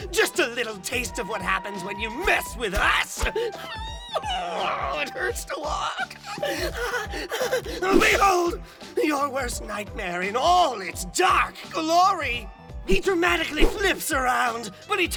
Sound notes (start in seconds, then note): 6.2 squealing in pain